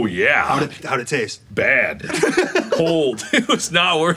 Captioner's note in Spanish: risas